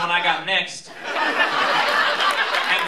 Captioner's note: laughter